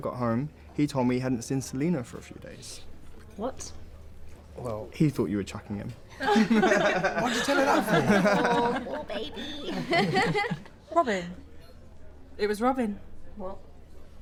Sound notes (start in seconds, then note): 6.1 laughter; 11.2 laughs